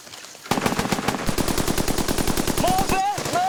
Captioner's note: gunfire